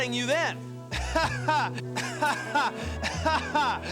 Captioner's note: laughs